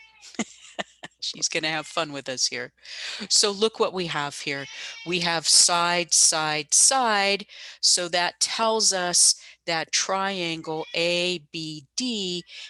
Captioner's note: laughs